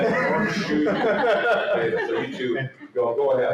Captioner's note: laughter